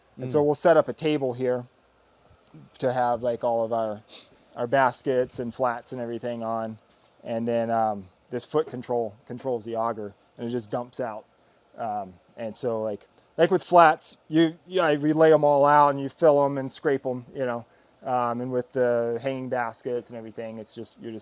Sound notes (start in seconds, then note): 4.0 sniffles